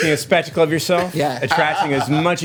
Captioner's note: laughter